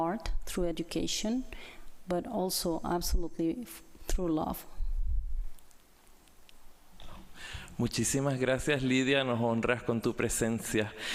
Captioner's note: spanish